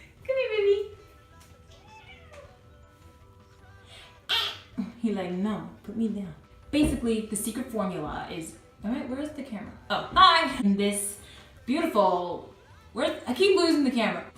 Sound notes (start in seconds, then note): 1.7 cat whines